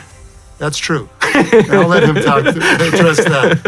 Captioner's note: laughs